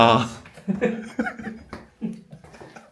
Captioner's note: laughs / Laughs